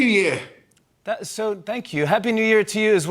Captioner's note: normal voice